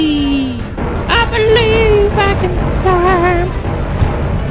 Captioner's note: silly voice